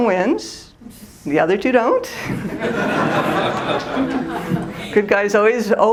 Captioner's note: laughter